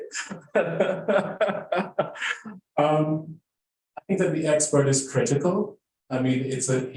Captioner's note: laughing